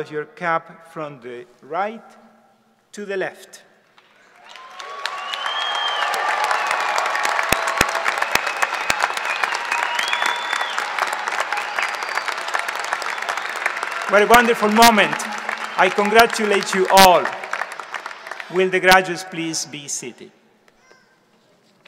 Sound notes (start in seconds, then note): 4.4 audience applause